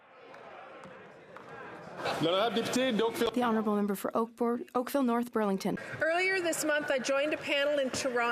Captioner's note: some Applause